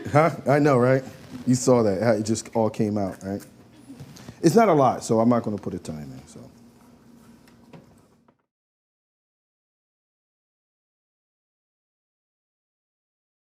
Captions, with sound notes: I know right you saw that how it just all came out right. it's not a lot, so I'm not going to put a ton in so. [Silence]